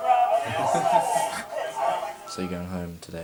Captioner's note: Eric laughs